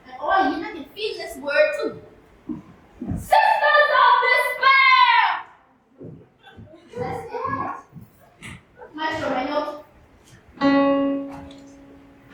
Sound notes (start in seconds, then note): 6.2 laughter; 10.6 piano note